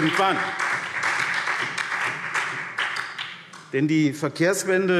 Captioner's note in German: Beifall SPD